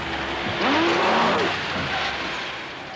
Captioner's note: roars